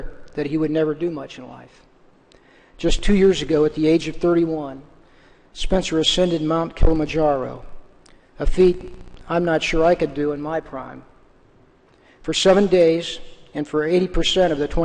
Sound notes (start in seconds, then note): none